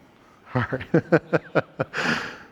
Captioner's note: laughs